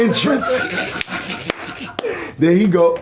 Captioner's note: laughing